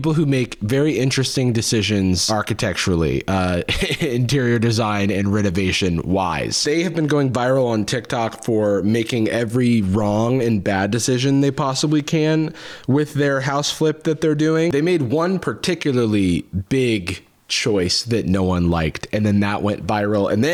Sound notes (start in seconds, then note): 3.5 laughs